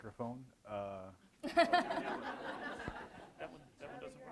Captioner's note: audience laughs